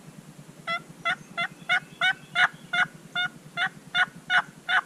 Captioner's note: turkey calling